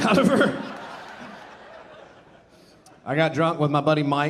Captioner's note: audience laughing